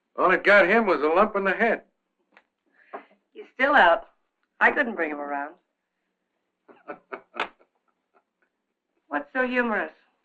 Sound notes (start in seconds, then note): 6.7 laughing